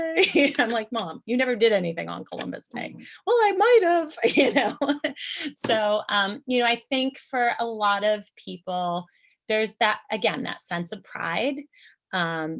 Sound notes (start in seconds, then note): 0.3 laughter; 4.7 chuckle